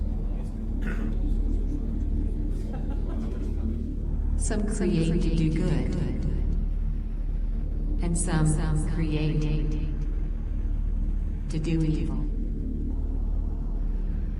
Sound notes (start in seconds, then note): 2.5 person laughs